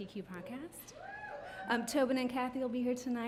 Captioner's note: several audience members cheer